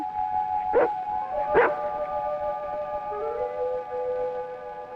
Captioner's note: Rebel barking